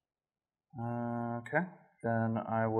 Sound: disappointed mill player noises

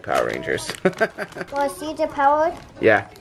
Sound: laughs

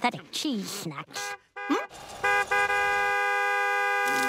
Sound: car horn honking; blows raspberry

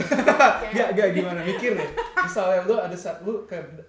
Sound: laughter

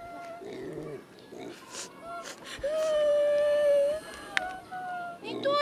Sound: sniffling, crying

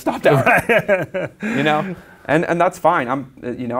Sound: laughs

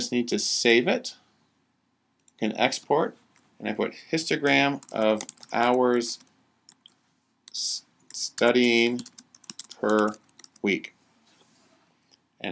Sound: typing

